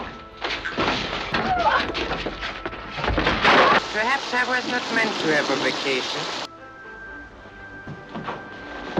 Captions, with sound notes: (objects clattering) - Perhaps I was not meant to have a vacation.